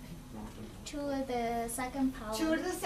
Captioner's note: voiceover